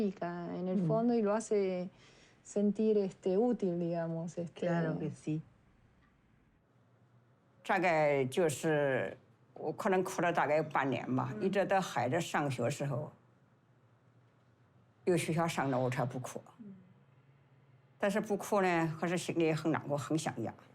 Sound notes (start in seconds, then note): 7.6 dialogue in Chinese